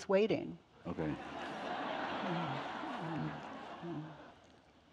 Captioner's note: audience laughing